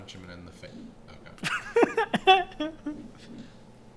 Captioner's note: laughter